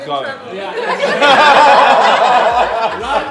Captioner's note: laughs